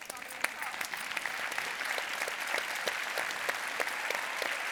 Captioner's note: audience applauding